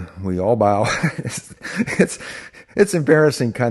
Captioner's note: laughing